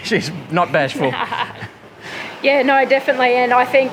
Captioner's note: chuckles